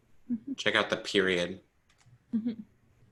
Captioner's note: chuckles